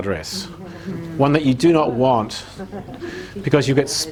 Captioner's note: laughing